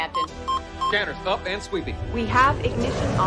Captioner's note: beeping